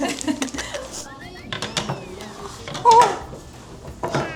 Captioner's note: dripping uncontrollably